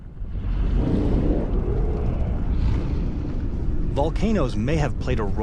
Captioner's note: volcanoes exploding